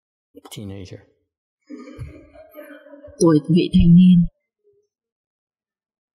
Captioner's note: laughter